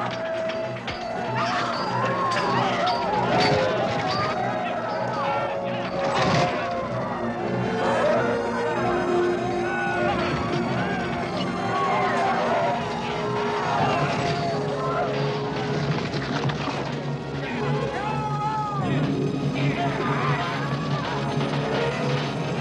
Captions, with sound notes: No, let me go! No! (yelling) (people yelling) (slow, tense orchestral music)